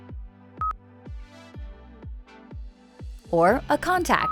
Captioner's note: electronic beep